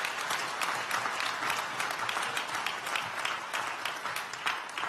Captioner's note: applause